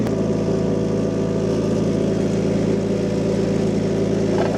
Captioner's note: engine purring